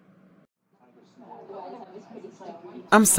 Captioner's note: diner background noise